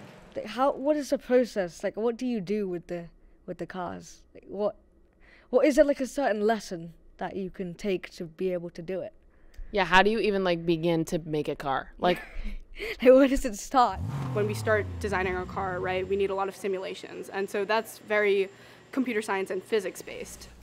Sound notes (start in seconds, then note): 12.7 laughs; 13.9 engine rev